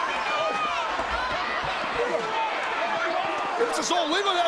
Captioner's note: audience chattering